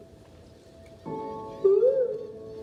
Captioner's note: bird: ooOO